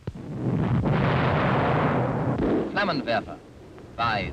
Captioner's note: explosions thundering